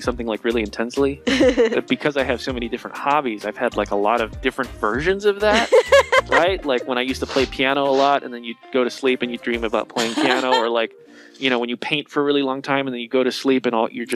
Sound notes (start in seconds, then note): 1.2 laughing; 5.3 laughing; 9.5 laughing